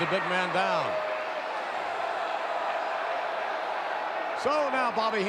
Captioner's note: audience cheering